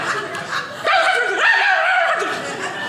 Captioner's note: audience laughing; barking; audience laughing